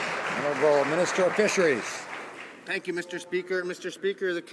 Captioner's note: some Applause